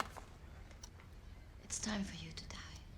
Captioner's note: clock ticking